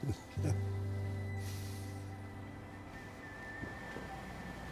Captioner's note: Tommy chuckles